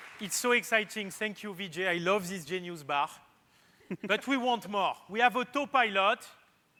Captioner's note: applause